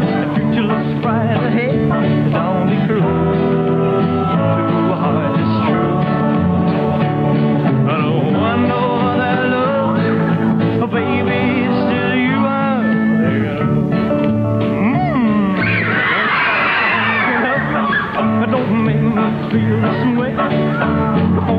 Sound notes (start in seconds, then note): 14.8 audience screams